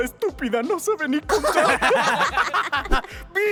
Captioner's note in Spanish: Risas malvadas